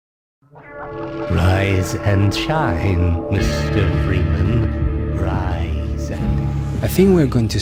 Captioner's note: g-man talking